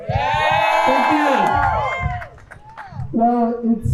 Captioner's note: crowd cheers